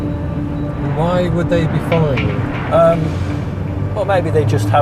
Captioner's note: voiceover